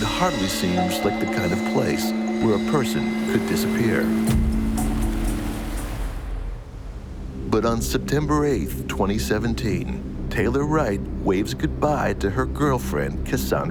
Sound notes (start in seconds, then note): 4.4 soft dramatic music; 4.4 water burbling